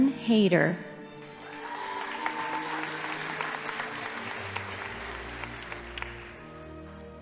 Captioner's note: audience applauding; crowd cheering